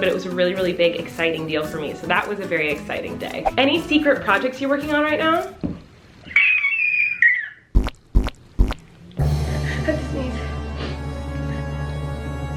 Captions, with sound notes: but it was a really, really big, exciting deal for me. So that was a very exciting day. "Any secret projects you're working on right now?" (squeals) (dramatic music)